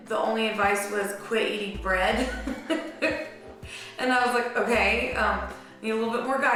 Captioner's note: laughs